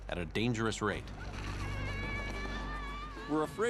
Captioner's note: children yelling